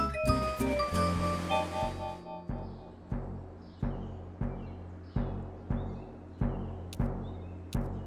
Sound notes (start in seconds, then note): 1.8 faster heart beating